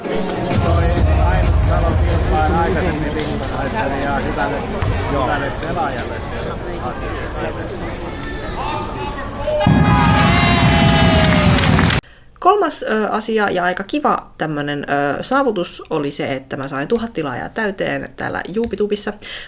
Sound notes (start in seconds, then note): 9.6 applause